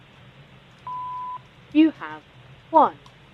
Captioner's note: beep